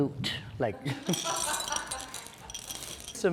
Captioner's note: laughs